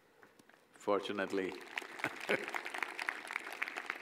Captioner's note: applause; laughs